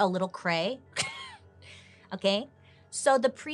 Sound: chuckles

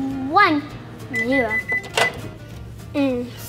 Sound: microwave beeps

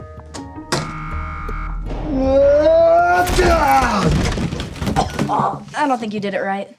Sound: wrong buzzer; Mike screaming

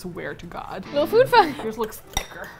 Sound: rock music; laughs

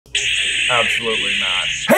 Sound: lightsaber whirring

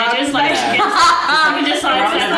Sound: laughing

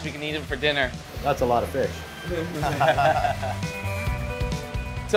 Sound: laughter

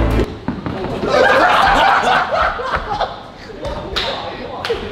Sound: lads laughing

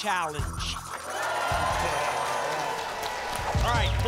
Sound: applause

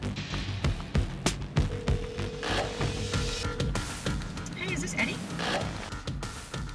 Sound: phone rings

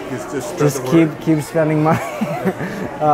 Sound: laughs

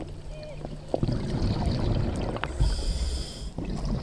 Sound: inhales deeply; water burbling; inhales deeply

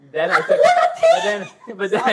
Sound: laughs

